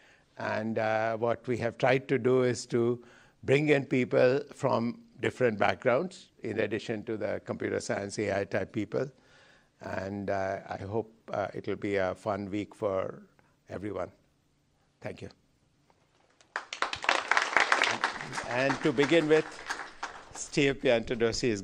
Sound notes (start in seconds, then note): 16.3 applause